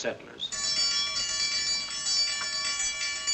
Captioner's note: clanging